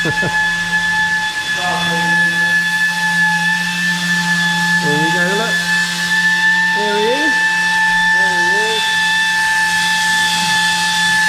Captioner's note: noise from the sander